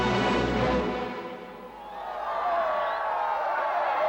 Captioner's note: cheers and applause